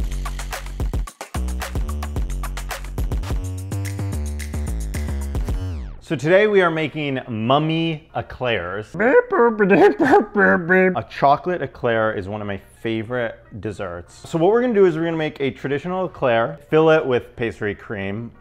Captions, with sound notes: (light upbeat music) So today we are making mummy eclairs. (goofy moaning) A chocolate eclair is one of my favorite desserts. So what we're gonna do is we're gonna make traditional eclair, fill it with pastry cream.